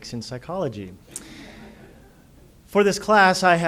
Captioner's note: audience laughter